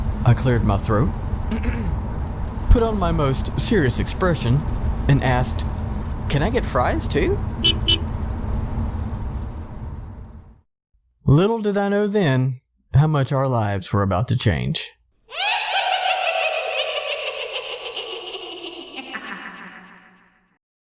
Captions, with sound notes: I cleared my throat... Put on my most SERIOUS expression... and asked... “Can I get fries, too?” [car honks] Little did I know then, how much our lives were about to change. THE WITCH [gets one last laugh]